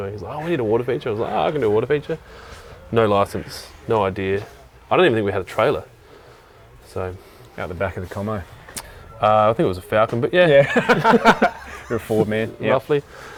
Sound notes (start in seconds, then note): 10.6 laughs